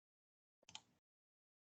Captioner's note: typing sounds